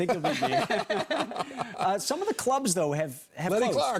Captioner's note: laughter